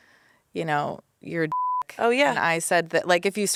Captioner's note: beep